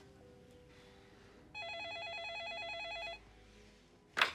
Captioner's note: telephone rings